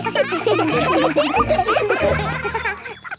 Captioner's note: children laughing